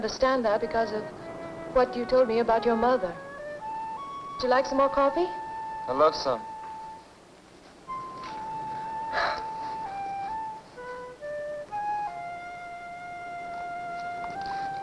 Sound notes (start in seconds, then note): 6.7 gentle music; 9.0 Johnny sighs